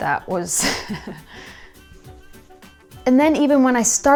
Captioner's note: laugh